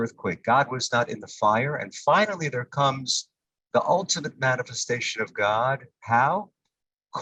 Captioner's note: Hebrew